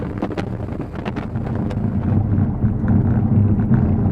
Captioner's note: engine and road noise